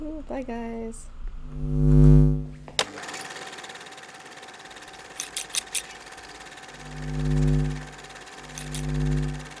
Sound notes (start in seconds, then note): 2.8 film rolling; 5.2 scissors snipping